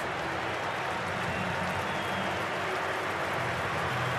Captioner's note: crowd cheering